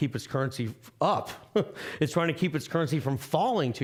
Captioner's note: chuckling